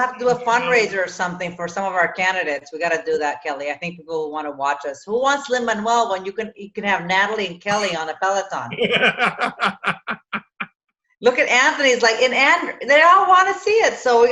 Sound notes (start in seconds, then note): 8.7 laughs